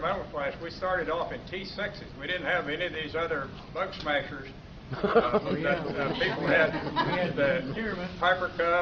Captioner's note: laughter